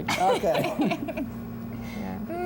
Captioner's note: laughter